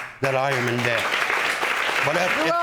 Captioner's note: audience applauding